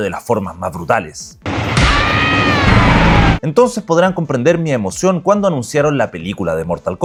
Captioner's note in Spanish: grito